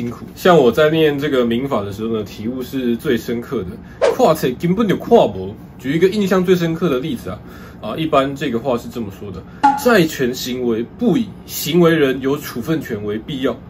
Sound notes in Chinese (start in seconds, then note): 3.7 台語